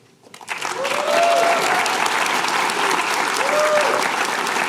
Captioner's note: applause